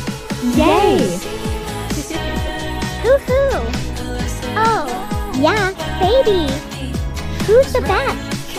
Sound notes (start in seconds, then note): 0.5 penny giggling